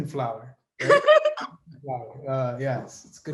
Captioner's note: laughs